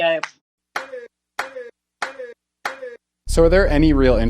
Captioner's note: sound effects